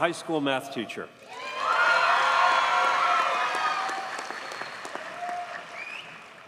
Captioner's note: audience cheers and applauds